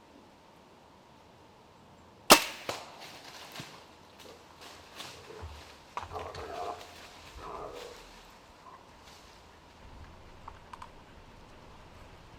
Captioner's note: wind blowing